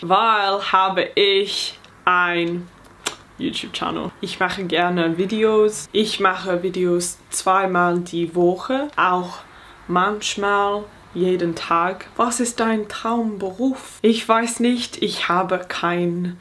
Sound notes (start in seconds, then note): 0.1 speaking in foreign language